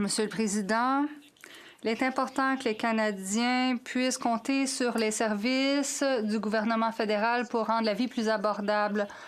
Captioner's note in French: voix de l'interprète